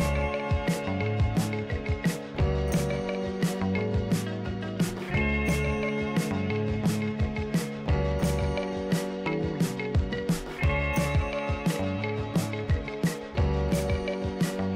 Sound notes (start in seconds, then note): none